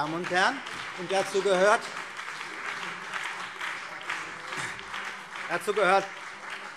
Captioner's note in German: Beifall CDU und BÜNDNIS 90/DIE GRÜNEN